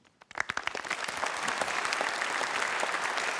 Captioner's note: applause